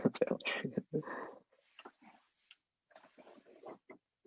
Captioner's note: laughs